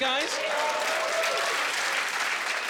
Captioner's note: applauding